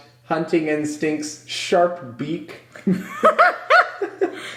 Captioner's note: laughs